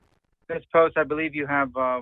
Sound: ~audio distortion~

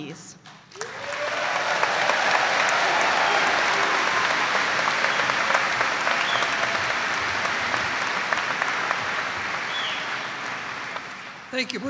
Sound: audience applauding

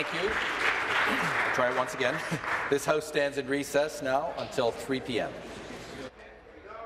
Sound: applause

